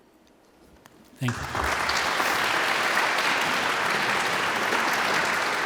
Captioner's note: audience applauds